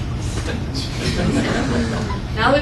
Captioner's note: laughter